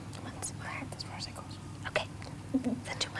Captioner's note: woman whispering